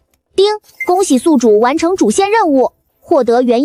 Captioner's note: ding!